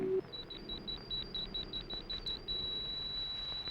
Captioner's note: beeping